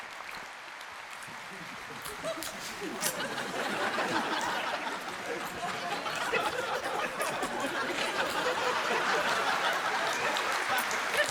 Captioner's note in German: Sie spricht nichts - Publikumsgelächter